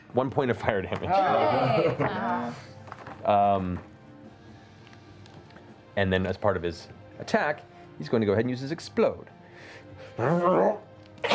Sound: roars

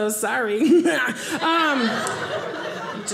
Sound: audience laughing

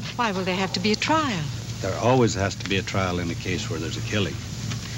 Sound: none

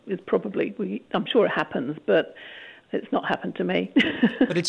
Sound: laughs

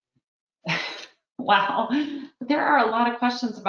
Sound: laughs

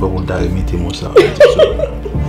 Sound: giggles

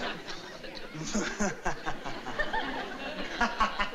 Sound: laughing

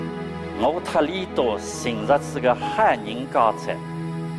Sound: in Suzhou dialect

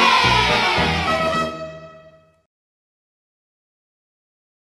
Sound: cheering

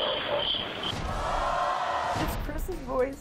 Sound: audience gasps

